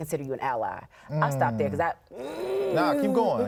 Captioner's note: grunting